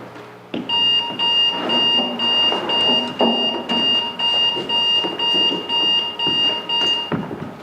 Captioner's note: alarm buzzes